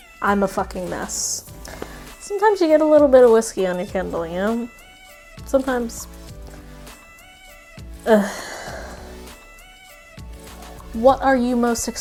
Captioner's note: long sigh